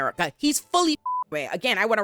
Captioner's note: beep